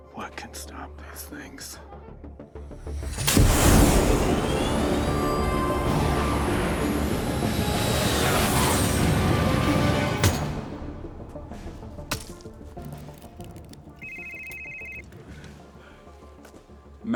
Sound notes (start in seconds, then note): 3.5 dramatic music; 3.5 fighter jet whooshes; 11.3 hammer thunks; 13.9 phone rings